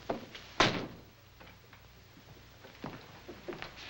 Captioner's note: door slams